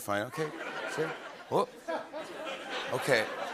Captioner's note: laughter